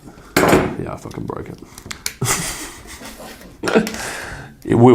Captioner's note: laughing